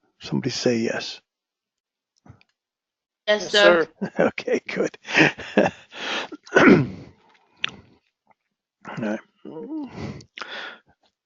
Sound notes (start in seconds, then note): 4.9 laugh; 6.3 cough